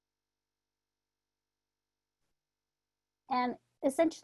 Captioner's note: silence